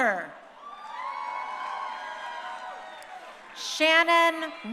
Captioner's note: crowd cheering